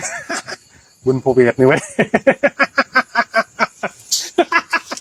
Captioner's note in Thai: เสียงหัวเราะ